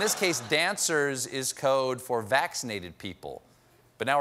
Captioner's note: laughter